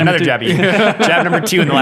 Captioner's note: laughing